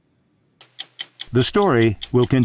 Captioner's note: clock ticking